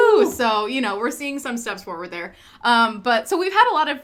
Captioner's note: cheering